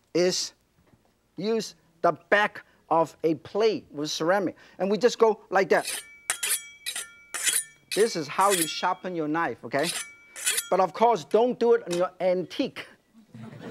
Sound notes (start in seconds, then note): 5.7 knife sharpens